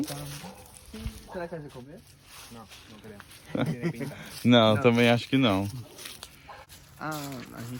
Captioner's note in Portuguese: Risos